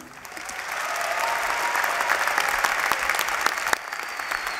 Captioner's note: applause